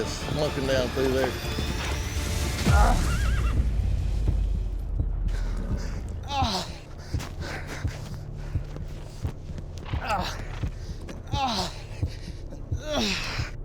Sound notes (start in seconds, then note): 2.6 big thud, groans; 6.2 groaning, limping